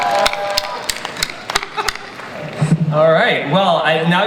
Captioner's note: audience cheers